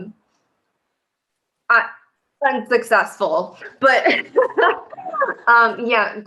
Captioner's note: laughter